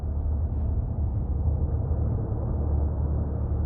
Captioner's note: low rumbles